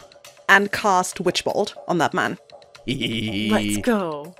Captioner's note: laughs